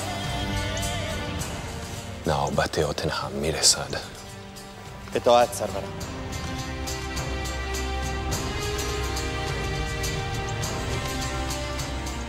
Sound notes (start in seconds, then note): 0.1 determined orchestral music; 2.3 Xerxes speaking in foreign language; 5.2 Mardonius speaking in foreign language; 7.2 determined orchestral music